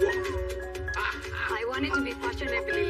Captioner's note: laughing